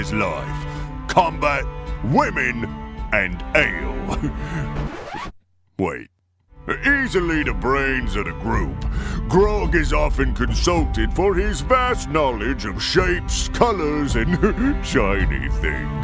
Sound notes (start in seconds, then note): 4.1 chuckle; 4.6 record scratch; 14.2 chuckle